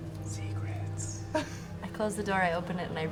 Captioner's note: whispers